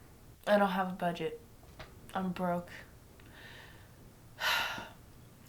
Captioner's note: sighs